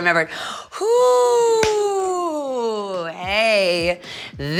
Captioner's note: clapping